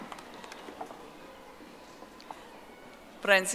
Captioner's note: audience applauding